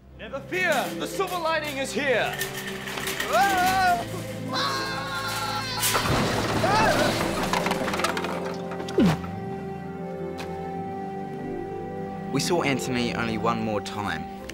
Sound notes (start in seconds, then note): 4.4 screaming; 6.2 crashing sounds